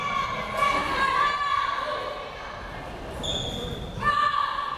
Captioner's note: crowd members shouting